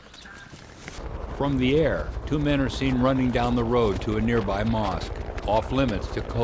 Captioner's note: voiceover